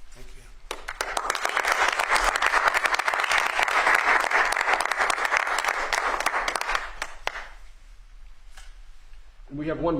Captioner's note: applause